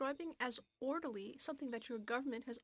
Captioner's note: speaking in French